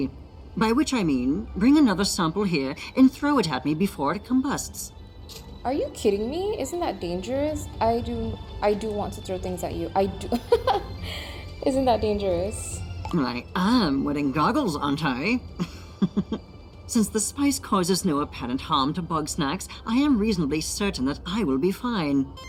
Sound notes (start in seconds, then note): 10.3 laughs